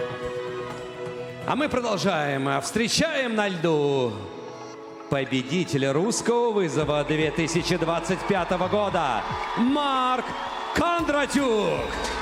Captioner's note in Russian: крик